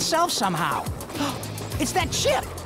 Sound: gasping

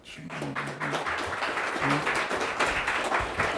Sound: students clap

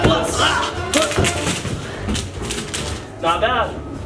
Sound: rings crashing

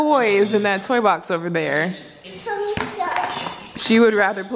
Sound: baby talk

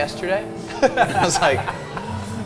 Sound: laughs

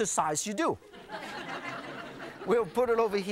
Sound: audience laughing

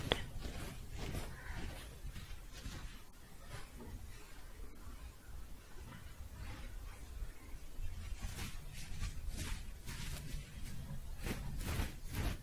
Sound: scratching and shuffling

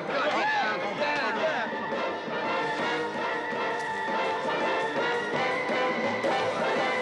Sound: upbeat music; people chattering

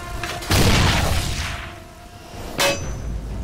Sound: explosion; patriotic music

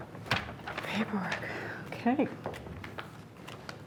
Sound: sighs

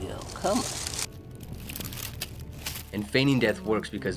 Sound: leaves crunching

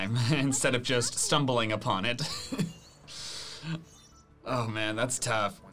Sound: laughs

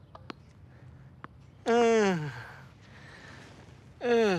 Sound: groaning

